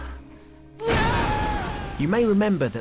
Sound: yelling

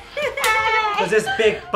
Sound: hand smacks

